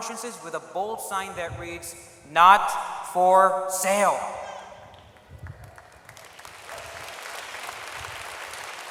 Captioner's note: applause